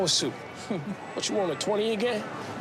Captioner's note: laughing